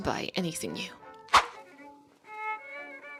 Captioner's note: woosh